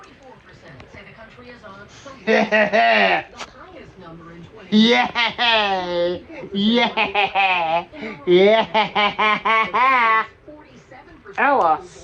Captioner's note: Ella laughing and giggling